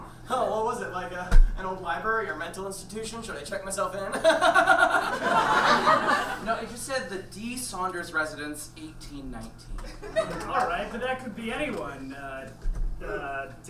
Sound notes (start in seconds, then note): 4.1 laughs; 5.9 audience laughs; 9.9 audience laughs